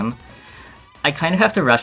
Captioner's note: audible inhale 2